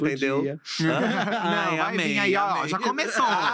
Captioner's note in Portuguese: risos